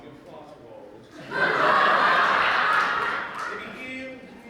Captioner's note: audience laughter